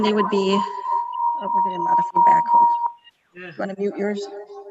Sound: echo squelching

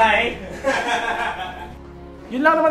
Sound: laughter

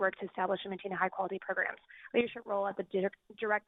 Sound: speaking very fast

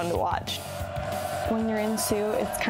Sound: crowd cheering

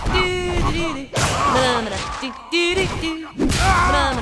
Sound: various grunts of pain; various grunts of pain

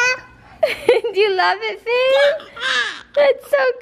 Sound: babbling; giggling

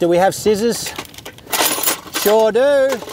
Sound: toolbox rummaging

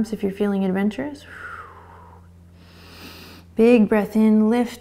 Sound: exhaling and inhaling

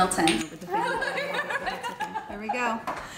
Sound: laughter

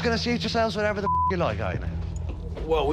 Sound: beep

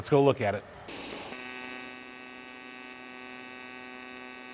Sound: welder buzzing

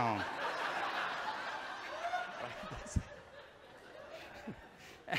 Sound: audience chuckles

